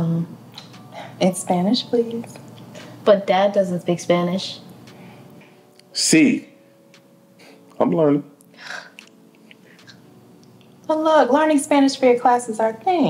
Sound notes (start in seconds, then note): 4.5 Brandon speaks in foreign language